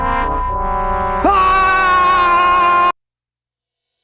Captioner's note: long Scream!!!